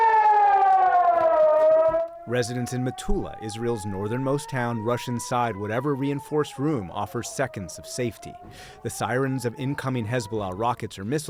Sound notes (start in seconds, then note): 2.2 sirens blaring